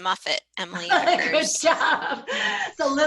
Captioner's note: laughter